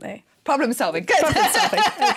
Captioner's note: laughing